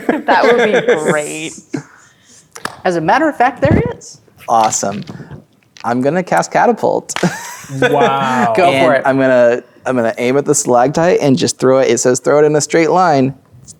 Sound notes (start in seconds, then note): 0.0 laughing; 2.6 claps; 7.3 laughs